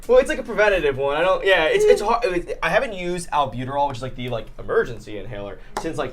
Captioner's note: none